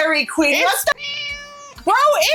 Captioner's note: meow